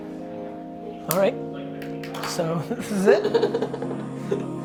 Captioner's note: laughs